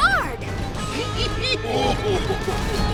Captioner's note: chuckling